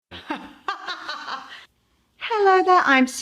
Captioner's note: laughing